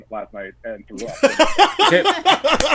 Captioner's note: laughter